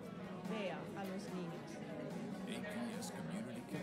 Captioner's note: speaking foreign language